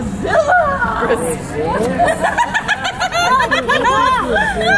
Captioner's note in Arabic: يضحك